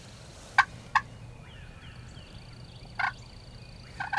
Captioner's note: turkey call